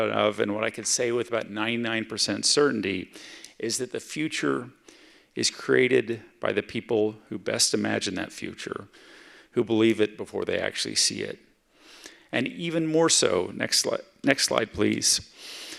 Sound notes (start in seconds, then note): none